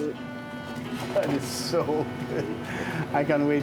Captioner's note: chuckling